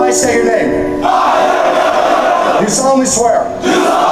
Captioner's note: shouting